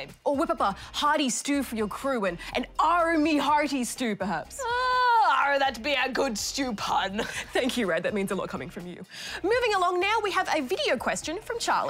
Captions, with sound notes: Or whip up a hearty stew for your crew. An "Arrrgh, me hearties" stew, perhaps. (PIRATE VOICE) Arrrgh! That be a good stew pun. Thank you, Rad. That means a lot coming from you. Moving along now, we have a video question from Charlie.